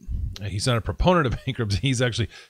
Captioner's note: laughs